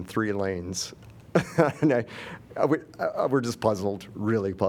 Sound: laughter

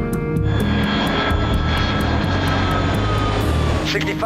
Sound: engine whooshing

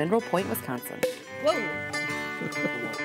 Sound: cork pops; laughter

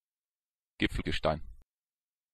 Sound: fast Pronunciation

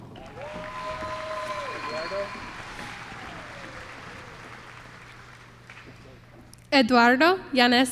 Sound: applause

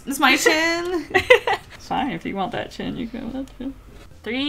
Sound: laughs

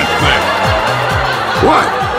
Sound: applause

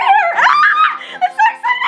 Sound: screaming

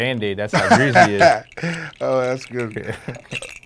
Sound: laughing

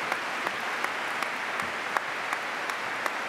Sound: applause

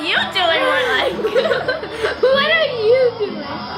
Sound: laughing

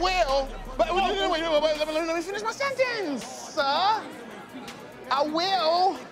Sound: stammering

